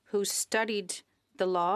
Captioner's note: speaking French